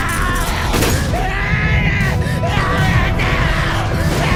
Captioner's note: screams